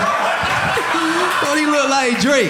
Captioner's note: audience laughing